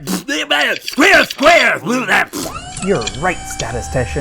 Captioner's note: growls and snarls